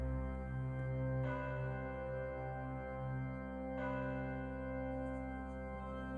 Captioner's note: church bells ringing; organ music